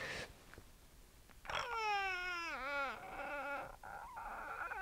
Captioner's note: faint dolphin sex noises